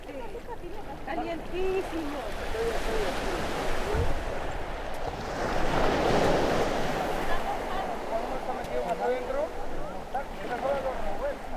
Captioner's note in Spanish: olas fuertes